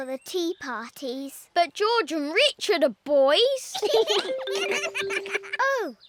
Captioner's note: both giggle